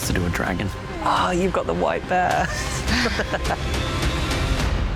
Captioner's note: laughs